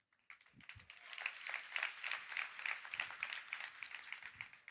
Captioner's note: applause